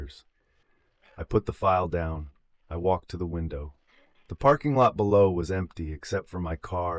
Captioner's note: breath